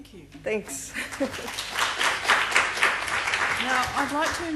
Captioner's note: applause